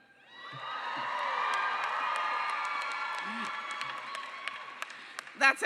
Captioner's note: cheering